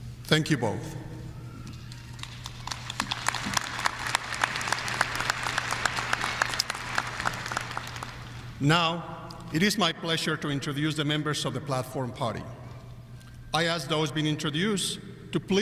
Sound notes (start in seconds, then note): 1.8 audience applauding